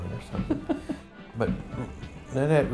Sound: chuckling

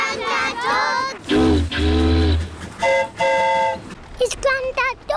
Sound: boat horn honks; train horn toots

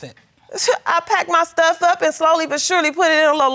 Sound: scoffs

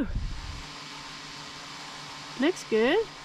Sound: drone humming

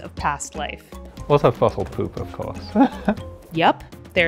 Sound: laughing

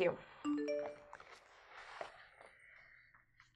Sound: text alert

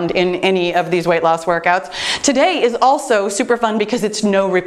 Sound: none

